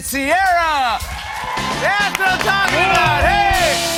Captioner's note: cheers and applause